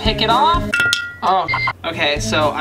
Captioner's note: metal dings; electronic screech